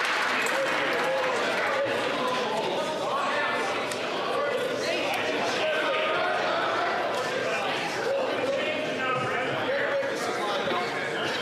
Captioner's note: applause